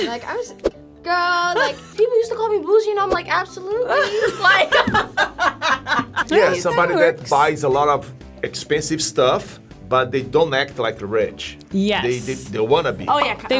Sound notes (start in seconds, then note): 3.8 laughs